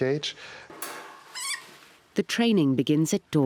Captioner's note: rat squeaks